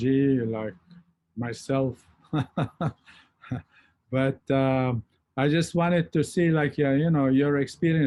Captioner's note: chuckles